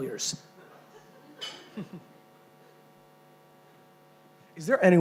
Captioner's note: chuckling